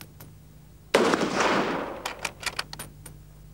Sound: gunshot

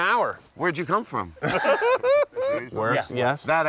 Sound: laughs

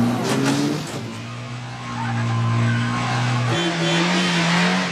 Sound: tires squealing

